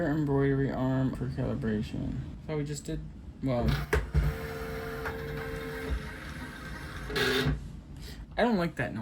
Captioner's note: motor Whirring